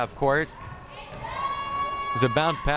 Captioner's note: crowd shouting